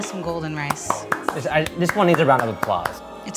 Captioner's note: clapping